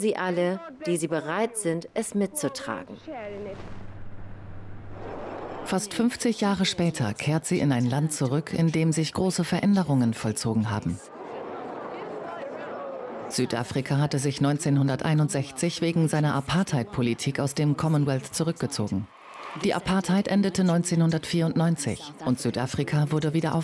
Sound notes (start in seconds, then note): 11.9 people chattering